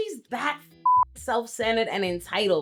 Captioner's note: beep